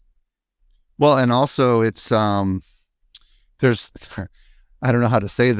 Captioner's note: chuckles